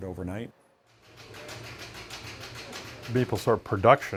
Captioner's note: machine beating